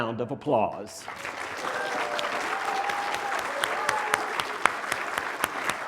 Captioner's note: cheering, applause